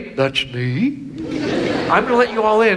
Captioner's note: audience laughs